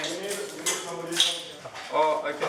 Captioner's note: speaking in foreign language